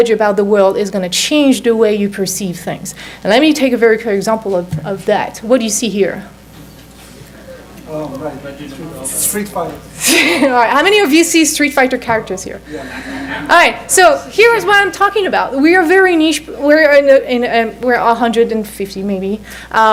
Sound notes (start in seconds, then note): 9.9 chuckles